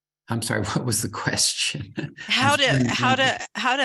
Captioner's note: laughs